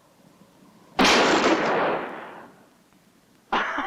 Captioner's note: gunshot